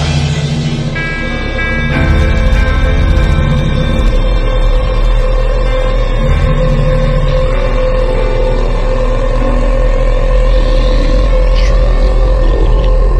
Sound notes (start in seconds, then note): 0.2 distorted atmospheric noise; 9.2 creature groans